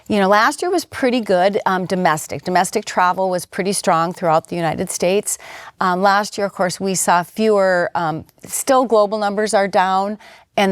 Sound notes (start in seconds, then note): none